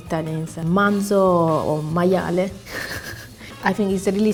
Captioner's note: is speaking in Italian